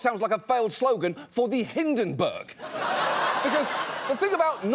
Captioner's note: audience laughs